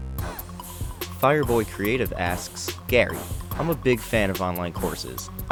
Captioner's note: voiceover